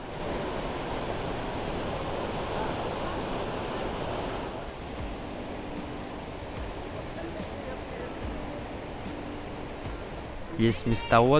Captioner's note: waterfall noise